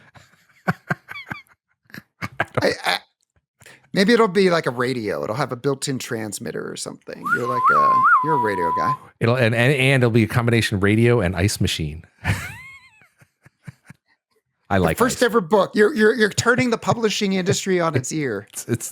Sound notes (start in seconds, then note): 0.0 laughter; 8.9 whistling; 12.2 laughter